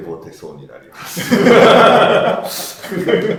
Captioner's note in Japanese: 爆笑